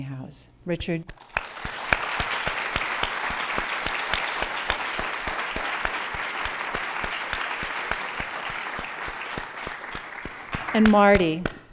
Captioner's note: applause